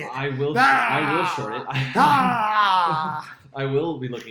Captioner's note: roaring